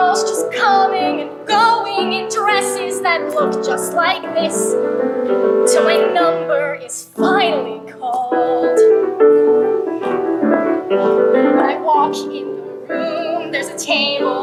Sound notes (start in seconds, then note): none